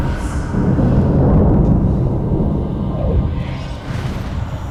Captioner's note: thunder crashes; eerie music